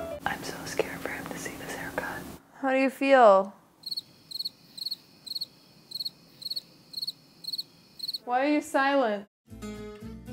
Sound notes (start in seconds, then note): 3.8 crickets chirping